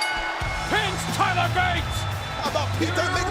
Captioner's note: bell ringing